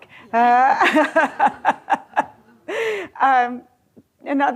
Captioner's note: laughs